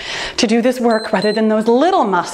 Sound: timer beeps

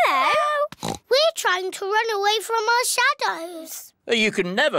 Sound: oinks

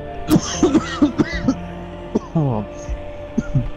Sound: coughing

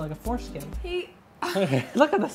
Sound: both laughing

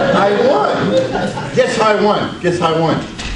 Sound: audience laughs

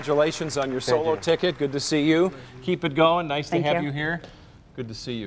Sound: cheers and applause

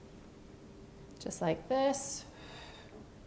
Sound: exhales

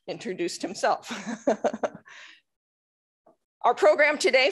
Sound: chuckling

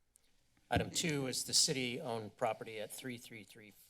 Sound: loud thuds

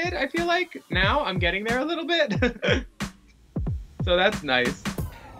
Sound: laughs

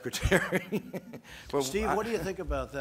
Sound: laughs

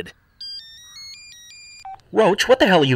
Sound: cellphone ringing

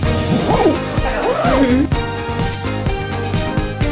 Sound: zipping zipper

